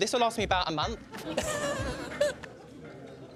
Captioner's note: laughter